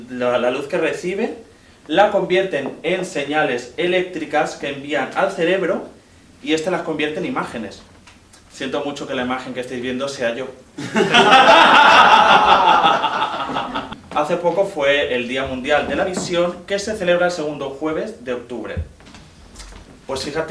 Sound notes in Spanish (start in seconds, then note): 10.8 Risas